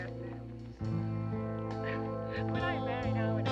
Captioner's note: chuckles